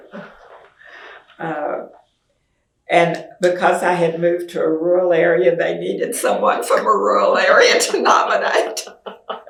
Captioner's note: laughs